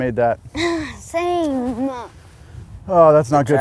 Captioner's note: sighs